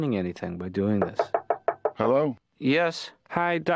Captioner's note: knocking